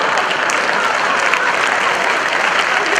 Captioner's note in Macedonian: аплауз